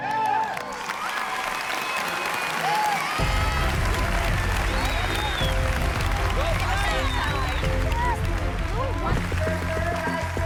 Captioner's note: applause